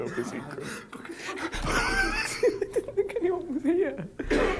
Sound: Tobi gasps

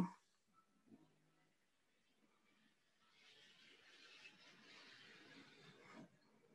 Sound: muted

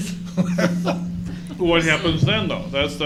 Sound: chuckling

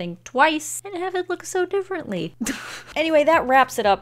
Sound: laughs

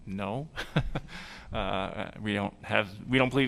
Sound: laughter

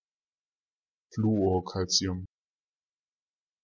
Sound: fast Pronunciation

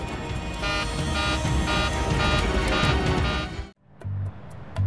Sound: computer beeps; upbeat music

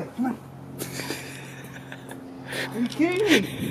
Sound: laughing

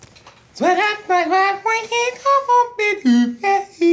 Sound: shouting

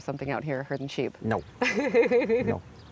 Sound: laughing

